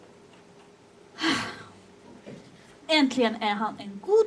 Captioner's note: sighs